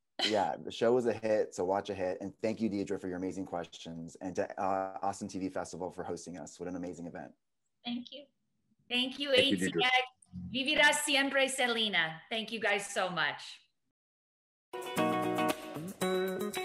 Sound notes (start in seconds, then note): 10.3 speaks in foreign language; 14.8 upbeat music